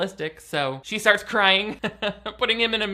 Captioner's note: laughs